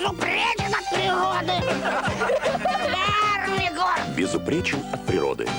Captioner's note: laughter